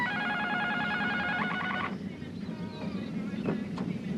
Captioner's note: alarm sounds